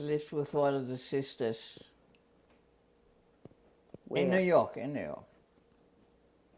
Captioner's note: pauses for 3 seconds